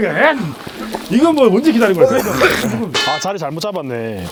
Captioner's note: coughs